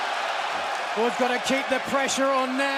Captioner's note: crowd cheering